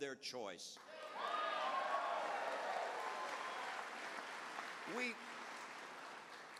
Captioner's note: cheers